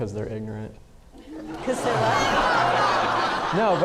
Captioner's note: audience laughing